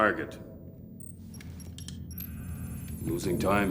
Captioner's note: keypad beeps